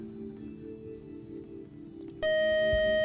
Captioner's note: beep